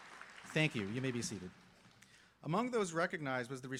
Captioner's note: applause